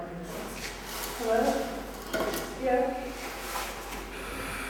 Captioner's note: volunteer speaking on the phone in background